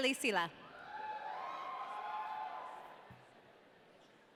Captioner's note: audience cheering